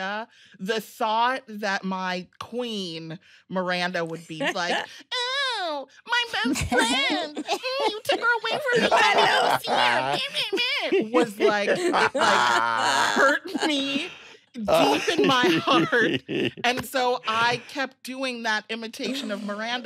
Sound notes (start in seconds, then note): 3.7 mocking tone; 10.0 mocking noises; 14.7 others laughing